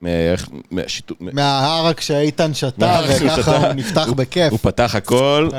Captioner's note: laugh